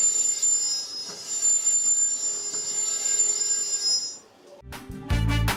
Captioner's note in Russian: слышен писк